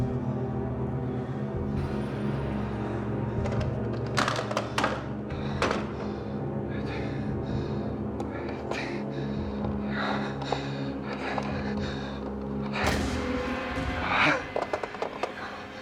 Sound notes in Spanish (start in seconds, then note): 4.1 ruidos con el teléfono; 7.5 susurra